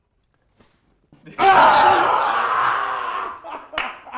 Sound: screams

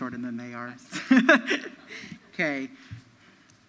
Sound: laughs

